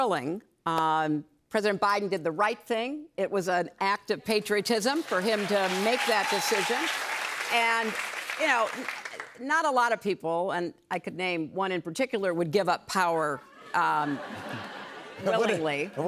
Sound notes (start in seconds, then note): 4.9 applause